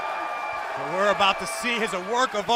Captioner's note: cheers & applause